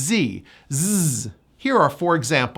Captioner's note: makes Z sound